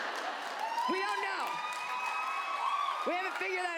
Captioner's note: audience laughs